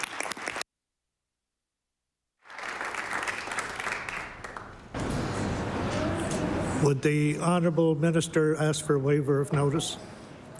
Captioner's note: applause